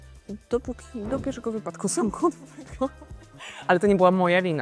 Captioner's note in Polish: śmiech